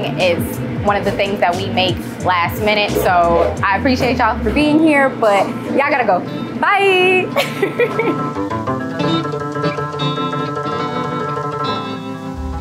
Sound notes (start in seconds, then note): 7.3 laughs; 8.9 gentle music continues